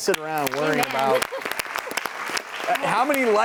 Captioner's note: applause